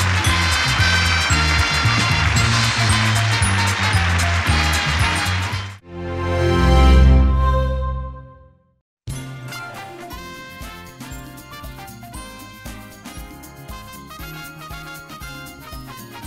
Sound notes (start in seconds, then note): 0.0 upbeat music; 3.5 audience cheers